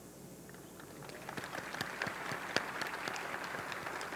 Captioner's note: audience clapping